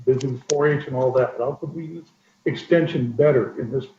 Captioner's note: audio warbles